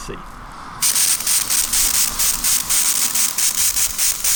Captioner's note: spraying